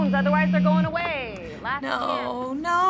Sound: phone vibrating

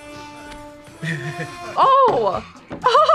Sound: laughs

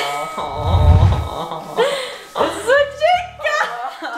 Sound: laughing

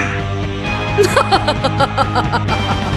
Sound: girl laughing

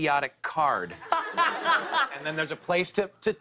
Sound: laughter

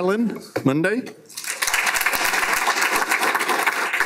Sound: applause

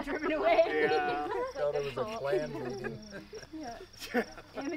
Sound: chattering

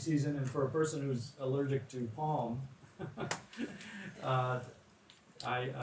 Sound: chuckles

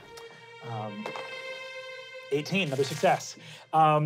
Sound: dice rolling

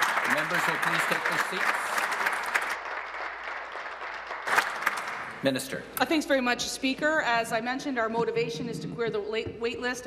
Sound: applause

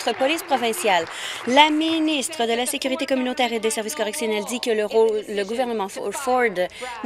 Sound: applause

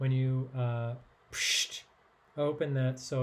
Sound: imitates bottle hissing

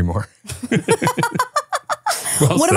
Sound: both laughing

